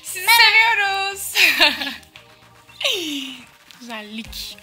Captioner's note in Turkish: Gülüyorlar